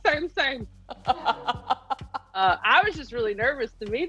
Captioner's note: laughing